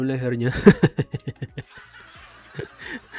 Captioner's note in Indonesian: tertawa